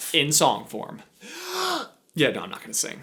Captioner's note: inhale